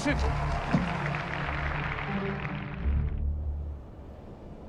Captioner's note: audience applauding